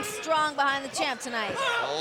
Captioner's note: fans chanting